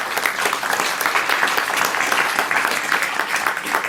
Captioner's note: audience clapping